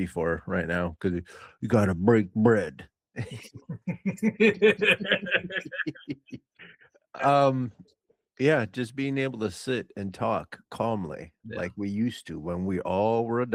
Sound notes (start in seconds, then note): 6.4 laughing